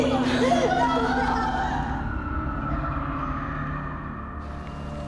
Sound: wailing echoes

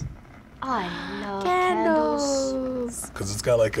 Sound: gasps

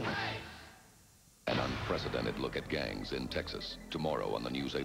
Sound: gunshot-type noise

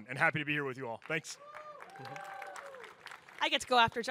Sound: audience applaud, cheer

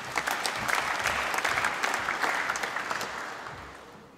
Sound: applause

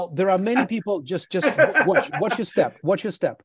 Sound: laughs

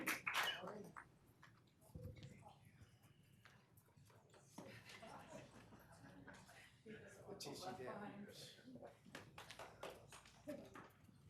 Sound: applause

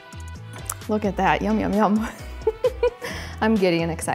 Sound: giggles

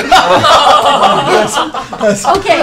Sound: laughter

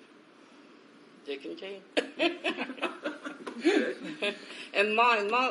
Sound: laughs

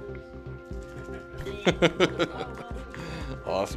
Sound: laughing

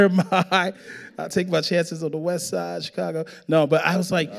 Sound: chuckling

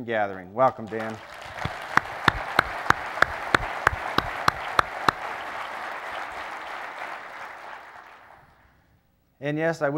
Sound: applause

